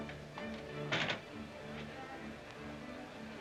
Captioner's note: door closes; soft music